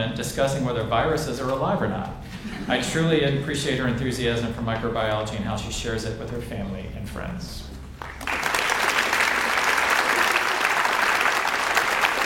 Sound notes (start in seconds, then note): 7.9 audience applauds